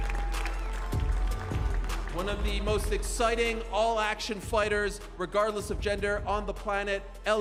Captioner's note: cheers and applause